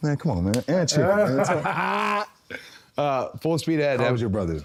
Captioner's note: Cody laughing